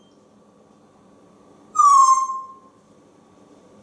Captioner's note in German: whistling